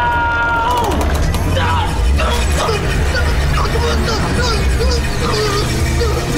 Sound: groaning

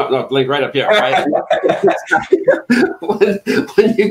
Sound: laughing

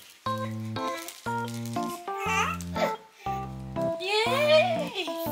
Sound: laughs

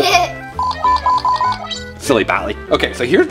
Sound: girl laughs; beeping

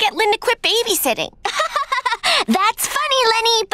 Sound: laughing

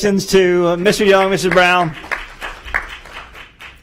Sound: applause

